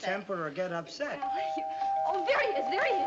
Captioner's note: doorbell